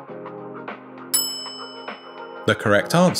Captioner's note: bell rings